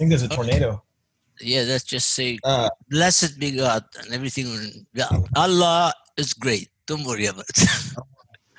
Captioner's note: laugh